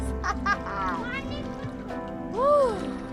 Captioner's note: laughs